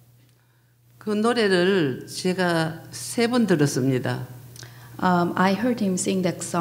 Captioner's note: speaking foreign language